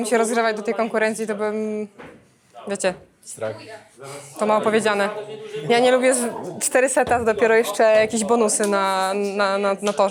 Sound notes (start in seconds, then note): none